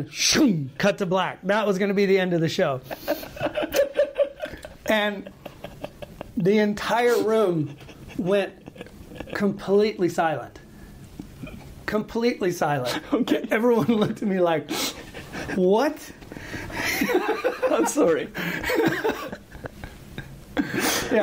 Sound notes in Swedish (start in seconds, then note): 13.1 skratt; 18.4 skratt